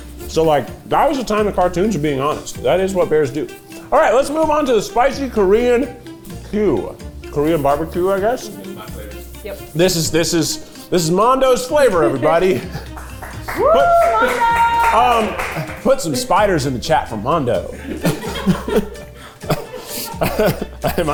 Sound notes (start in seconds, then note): 13.2 cast cheering; 19.4 cast laughing